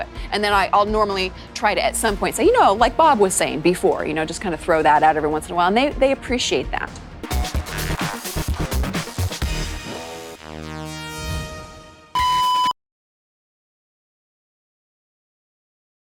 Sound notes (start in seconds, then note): 7.6 upbeat music; 12.1 beep